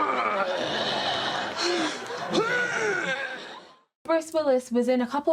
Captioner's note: man groans